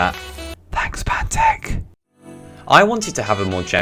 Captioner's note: whispered